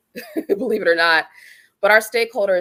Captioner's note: laughter